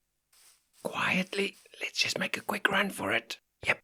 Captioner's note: whispering